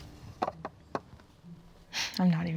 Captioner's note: wheel clatters